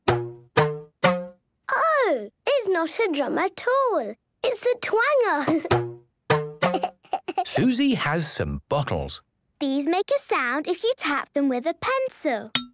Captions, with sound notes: - Twang! Twong! Twing! - Oh! It's not a drum at all! It's a twanger! (giggling) - Twang! Twong! Twing! - Suzy has some bottles. - These make a sound, if you tap them with a pencil.